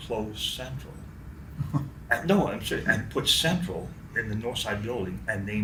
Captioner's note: chuckles